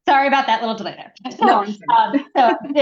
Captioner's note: laughs